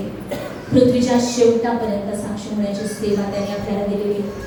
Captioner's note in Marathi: घसा साफ करणे